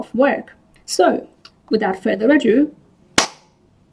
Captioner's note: clap